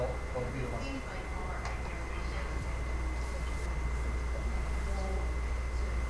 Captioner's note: attendee talking quietly